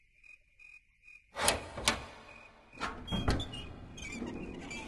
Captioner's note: door Opens